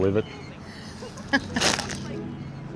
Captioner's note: laughing